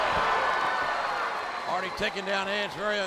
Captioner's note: audience cheering